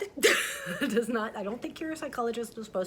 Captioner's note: chuckles